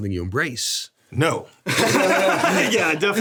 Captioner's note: laughs